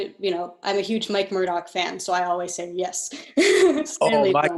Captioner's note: laughing